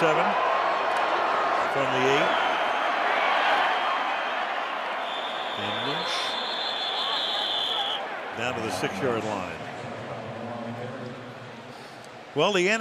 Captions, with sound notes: Second and 7. From the 8. And Lynch-- [whistle] --down to the 6-yard line. [pa announcement]